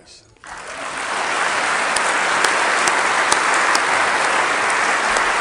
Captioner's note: audience applauding